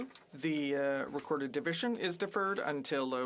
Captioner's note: speaking French